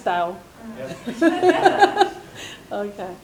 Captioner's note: laughs